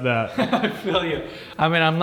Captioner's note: laughing